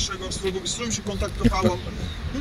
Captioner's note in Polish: śmieję się